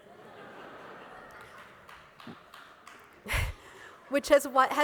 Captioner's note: laughter